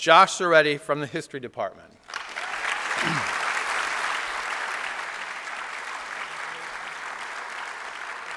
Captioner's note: applause